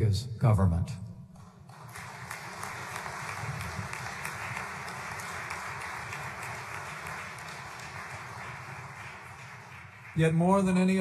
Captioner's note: applause